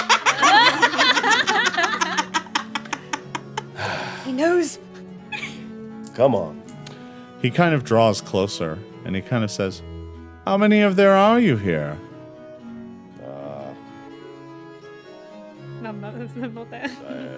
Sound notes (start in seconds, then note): 0.0 laughing; 3.5 sighs